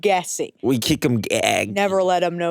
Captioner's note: gagging